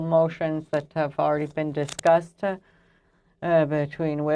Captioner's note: speaking French